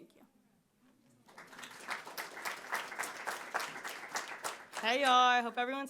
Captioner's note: audience applauding